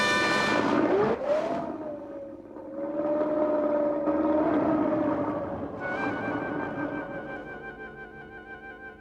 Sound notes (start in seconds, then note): 0.0 boat engine whirring